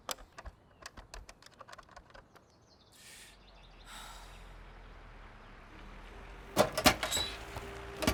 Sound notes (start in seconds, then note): 3.2 boy sighs